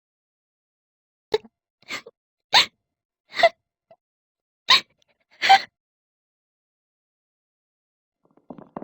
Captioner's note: crying